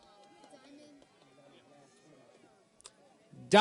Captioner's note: none